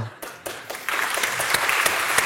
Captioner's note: applause